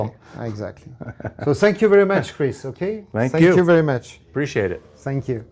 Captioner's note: laughs